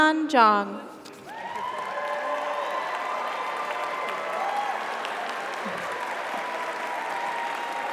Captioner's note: audience applauds; audience cheers